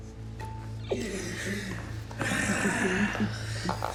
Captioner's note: Ben laughing